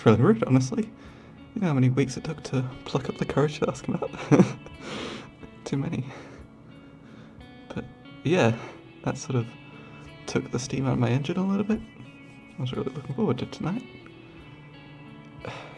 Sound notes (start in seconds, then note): 4.1 laughs